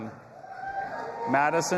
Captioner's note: audience applauding and cheering